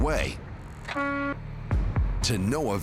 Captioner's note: horn honking